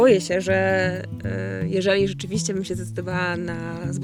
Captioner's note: foreign language